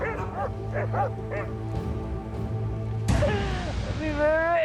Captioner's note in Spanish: ladridos